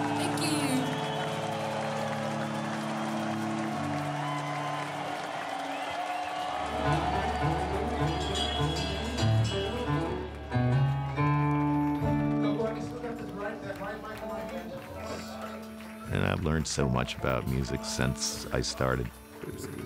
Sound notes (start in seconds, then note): 6.7 smooth music; 12.4 crew member chatting